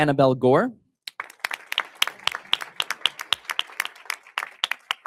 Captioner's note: audience applauding